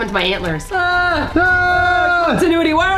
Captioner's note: ahhhh, AHHHH